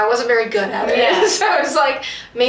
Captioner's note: laughs